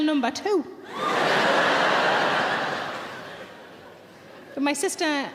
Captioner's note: audience laughing